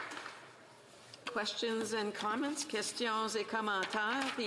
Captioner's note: applause